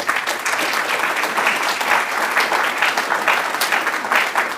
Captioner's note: applause